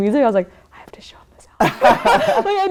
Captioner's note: whispers